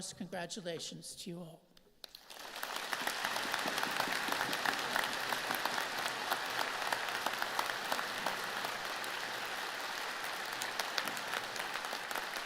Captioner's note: applause